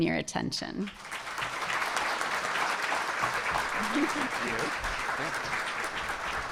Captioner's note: audience applauding